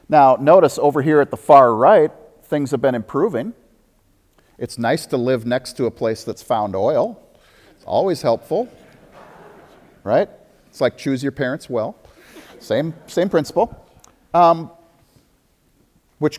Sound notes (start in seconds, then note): 8.4 audience laughter